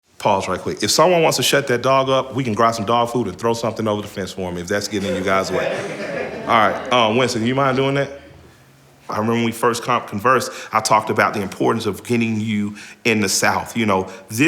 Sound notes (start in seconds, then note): 4.8 crowd laughs